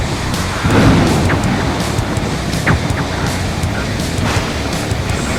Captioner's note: storm sounds